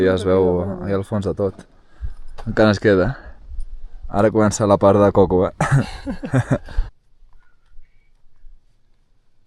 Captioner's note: laughter